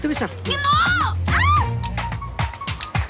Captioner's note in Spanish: Grito